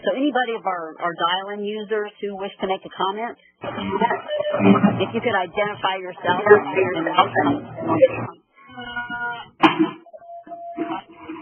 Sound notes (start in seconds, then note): 3.8 audio feedback; 6.4 audio feedback